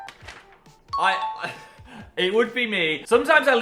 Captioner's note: ding